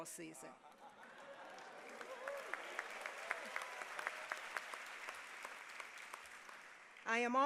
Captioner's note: applause